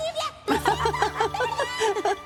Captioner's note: laughter